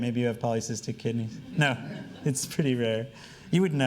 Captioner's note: laughing